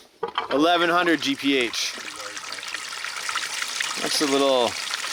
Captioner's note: water rushing